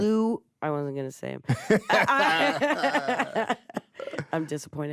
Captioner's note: both laugh